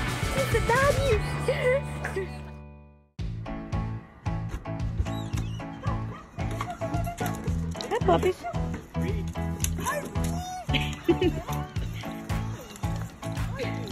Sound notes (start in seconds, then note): 10.7 onlooker chuckles